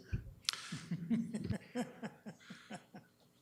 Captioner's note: laughs